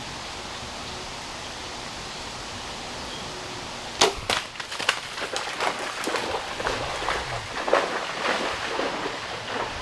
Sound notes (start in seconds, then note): 4.0 shot fired; 4.0 deer running